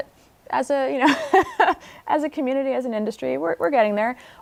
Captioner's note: laughter